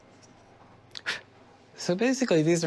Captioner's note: blows